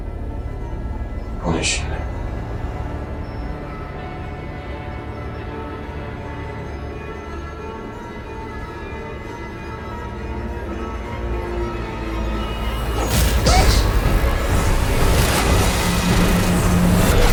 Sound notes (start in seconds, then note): 13.4 scream